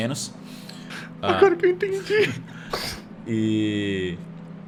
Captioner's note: laughs